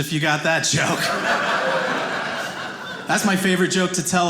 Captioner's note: audience laughing